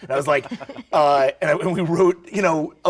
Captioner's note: laughs